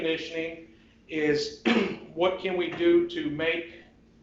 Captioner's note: clears throat